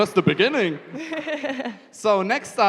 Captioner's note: chuckling